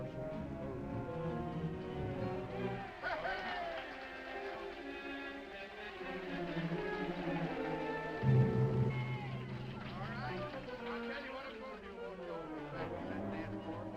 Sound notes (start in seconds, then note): 0.1 dramatic music; 3.5 all applauding; 6.0 dramatic music